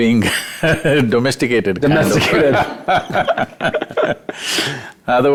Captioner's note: laughs; both Laugh